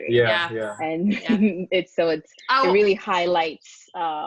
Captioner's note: chuckling